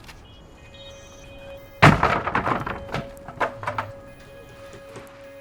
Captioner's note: wood tumbles loudly